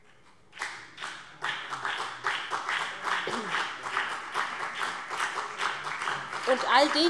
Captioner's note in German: Beifall BÜNDNIS 90/DIE GRÜNEN und vereinzelt CDU